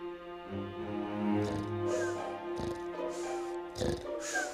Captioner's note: snoring